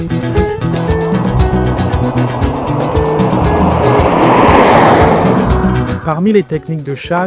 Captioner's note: car passing